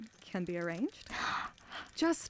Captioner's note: etta gasps